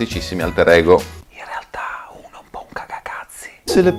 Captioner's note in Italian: Bisbigliando